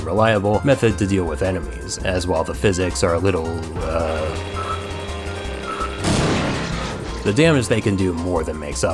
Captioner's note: spazzz boom